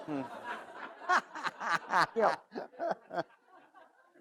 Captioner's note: all laugh